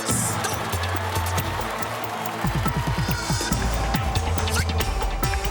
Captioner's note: cheers and applause; up-tempo music plays